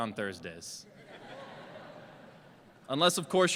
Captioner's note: laughter